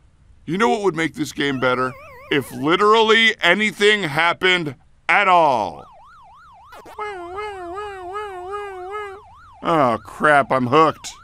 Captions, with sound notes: You know what would make this game better? If literally anything happened at all! [more pac-man sounds] Wee-oo wee-oo wee-oo. Oh crap, I'm hooked.